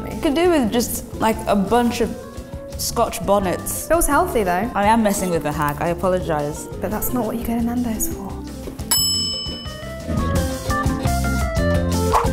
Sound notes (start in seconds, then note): 8.8 bell dings; 10.4 lively music